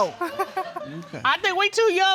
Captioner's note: audience laughing